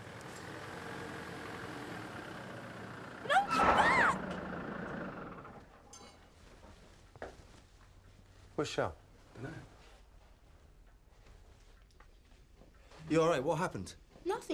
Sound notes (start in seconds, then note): 6.2 tires squealing